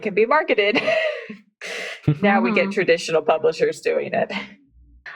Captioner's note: laughs